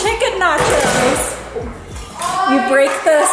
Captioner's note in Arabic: تضرب الأطباق معًا